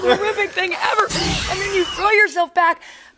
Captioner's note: velociraptor cries